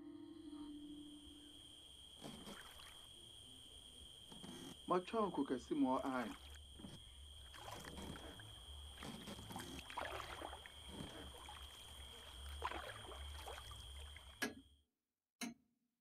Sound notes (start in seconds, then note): 0.1 bugs chirping; 7.6 bugs chirping; 7.6 water lapping; 14.1 clock ticking